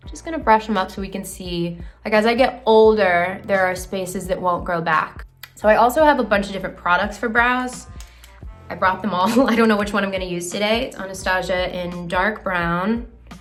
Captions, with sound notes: just gonna brush them up so we can see. As I get older, there are spaces that won't grow back. So I also have a bunch of different products for brows. I brought them all, [laughs] I don't know which one I'm gonna use today. Anastasia in dark brown.